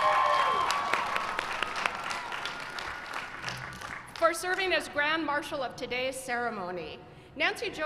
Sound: cheering

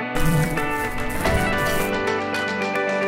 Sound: buzzing

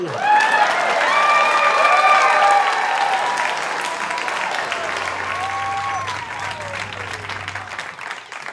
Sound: cheering

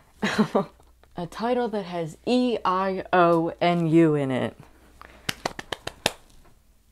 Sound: laughing; clapping

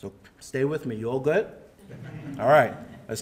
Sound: audience murmuring

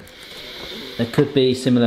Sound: sniffs

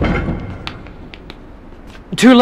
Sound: clunking

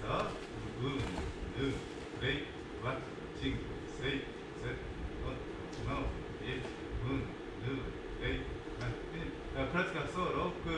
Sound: counts in italian

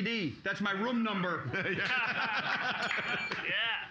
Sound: loudly laughing; bell softly chimes

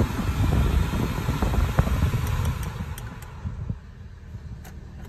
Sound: blower Fan

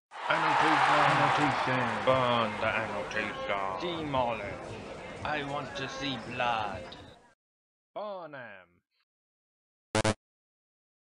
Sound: rioting

